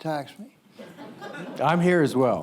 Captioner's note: audience laughs